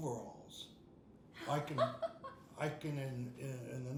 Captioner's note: laughing